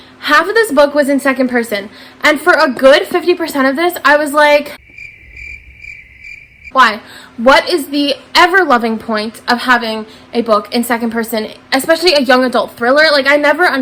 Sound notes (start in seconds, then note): 4.7 crickets